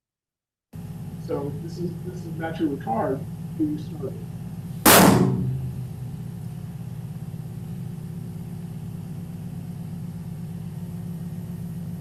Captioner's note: gunshot